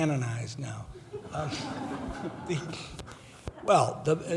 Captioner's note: laughing